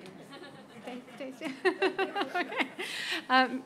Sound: laughter

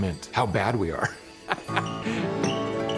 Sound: laughing

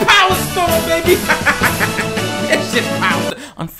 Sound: loud laughter

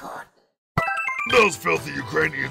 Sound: 1-Up Machine sound

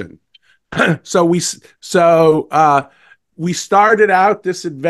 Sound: cough

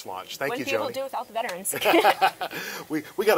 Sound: both laugh

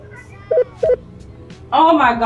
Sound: electronic beeping

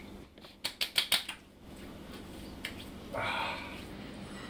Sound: light clapping; slapping

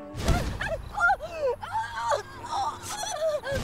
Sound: screaming

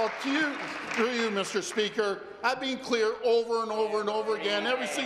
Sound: applause

